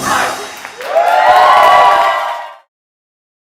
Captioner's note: group cheers